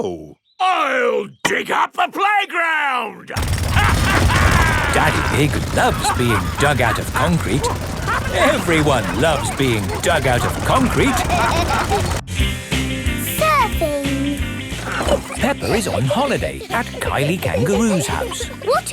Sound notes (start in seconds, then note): 3.7 drilling and laughing; 8.5 all laughing